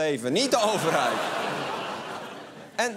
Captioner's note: laughter